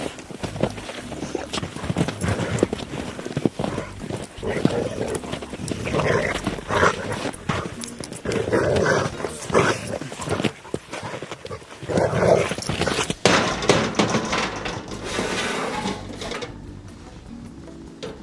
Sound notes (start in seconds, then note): 5.3 dogs growling; 13.0 banging